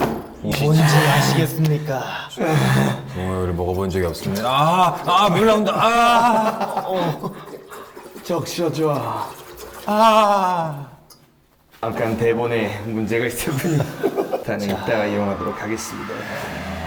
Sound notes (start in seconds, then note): 6.5 it's just the sound of water coming from the bottle